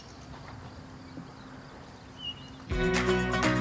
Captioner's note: soft chirping of birds